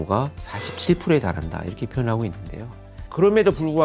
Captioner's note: emphasizing sound effect